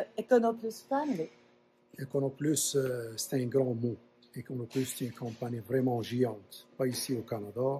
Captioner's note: speaks French